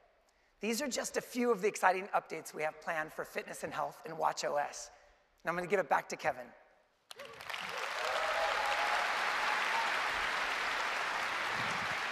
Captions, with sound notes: These are just a few of the exciting updates we have planned for fitness & health in watchOS, and I am going to give it back to Kevin. (Applause)